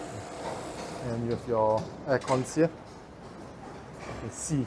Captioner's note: outdoor compressor